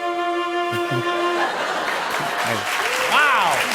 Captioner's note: cheers and applause